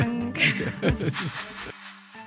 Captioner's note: laughs